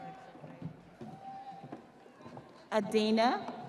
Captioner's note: audience cheering